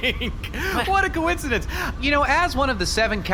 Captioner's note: laughing